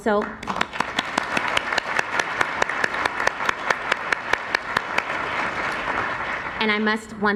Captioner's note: applause